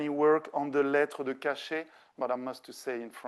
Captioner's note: speaking French